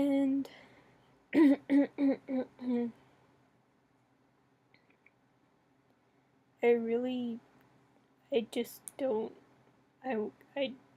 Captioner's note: clears throat